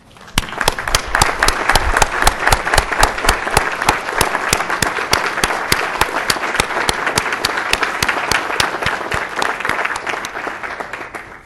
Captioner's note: applause